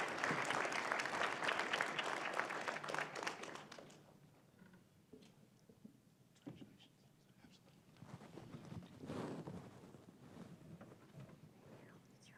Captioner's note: applause